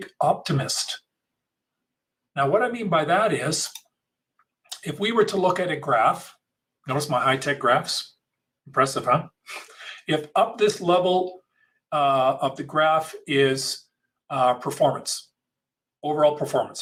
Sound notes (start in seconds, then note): 10.0 laughs